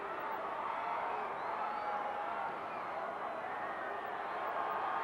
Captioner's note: audience cheering continues